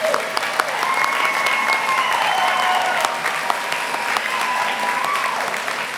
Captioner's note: applause